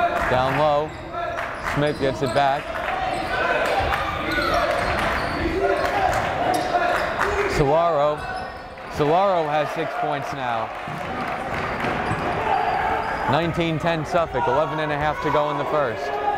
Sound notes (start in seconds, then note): 0.0 chanting; 0.0 clapping; 2.6 chanting; 3.7 clapping